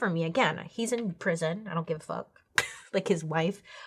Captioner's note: laughs